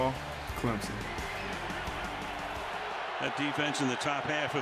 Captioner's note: cheering